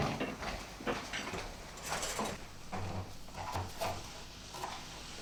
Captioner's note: food sizzling